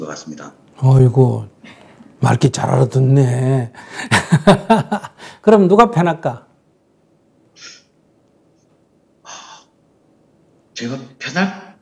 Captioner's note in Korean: 웃음